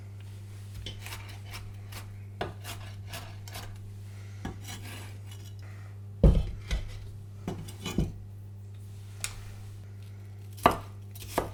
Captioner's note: chopping sounds